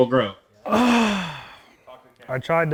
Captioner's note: sighs